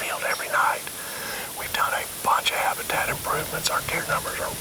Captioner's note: whispering